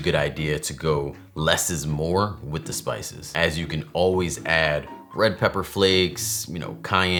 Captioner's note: none